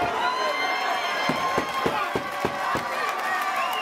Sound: cheering

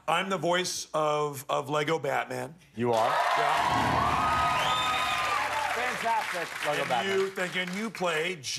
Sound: cheers and applause

